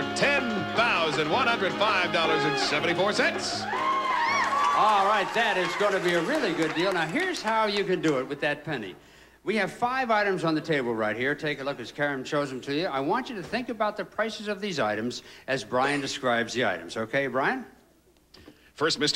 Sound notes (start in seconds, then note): 5.5 audience applauding